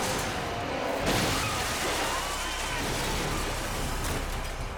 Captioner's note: motorcycle crashes; motorcycles clanking